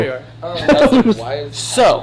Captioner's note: laughs